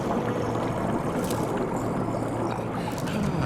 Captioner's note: gurgling